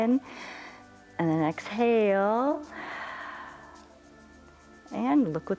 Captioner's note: inhales; exhales